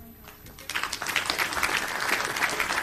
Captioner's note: applauding